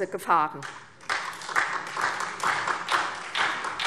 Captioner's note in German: Beifall SPD